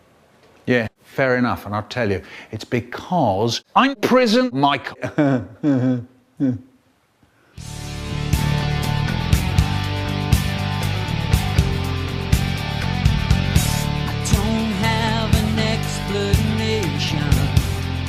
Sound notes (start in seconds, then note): 4.8 well-deserved chuckle after insanely clever joke